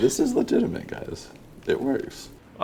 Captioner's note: laughs